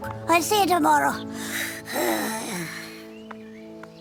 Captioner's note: sighs